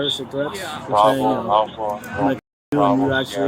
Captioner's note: radio chatter